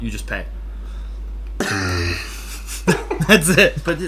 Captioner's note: laughs